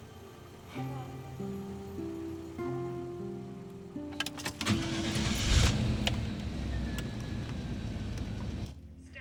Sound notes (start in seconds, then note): 4.5 engine turns over